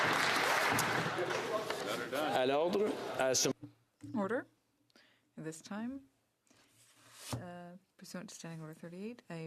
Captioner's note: some Applause